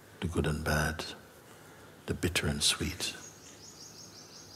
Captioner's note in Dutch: none